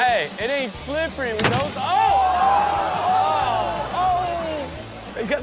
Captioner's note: audience gasps